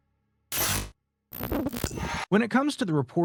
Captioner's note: electricity buzzes